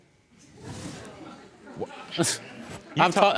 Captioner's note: audience murmuring; scoffs